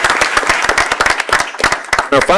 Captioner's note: applause